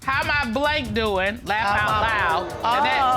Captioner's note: judge dana reading